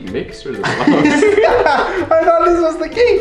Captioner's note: laughs loudly